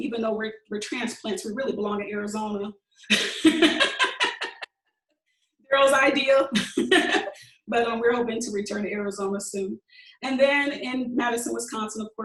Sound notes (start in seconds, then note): 3.1 laughing